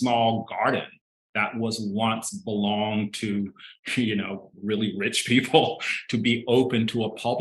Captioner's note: chuckling